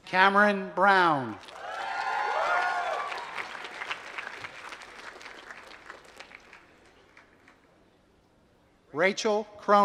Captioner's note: applause